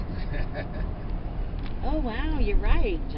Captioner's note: Jonathan's grandpa laughs